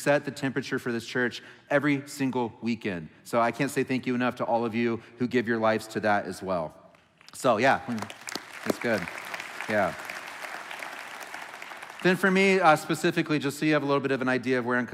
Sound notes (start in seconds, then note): 7.8 applauding